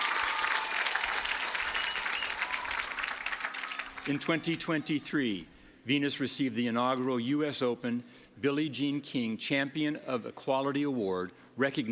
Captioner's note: cheers and applause